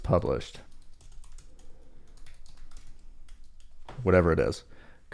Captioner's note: keyboard clicking